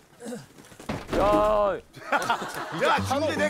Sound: crash

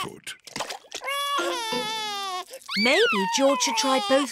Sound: cries

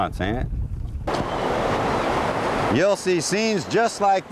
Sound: waves cashing on the beach

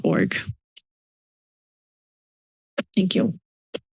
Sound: silence

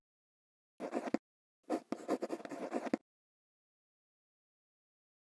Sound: quill scratching

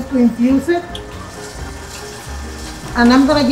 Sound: machine whirring

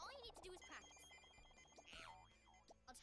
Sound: bracelet beeping intermittently

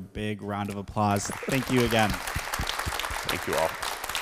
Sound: crowd applauds

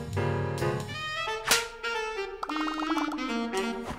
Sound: slap; popping

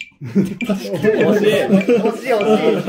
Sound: laughing

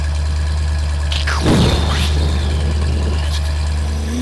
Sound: explosion

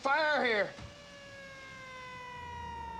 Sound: siren

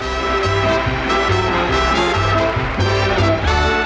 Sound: audience applauding; upbeat music

